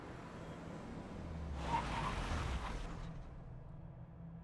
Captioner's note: tires squealing